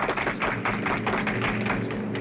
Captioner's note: applauding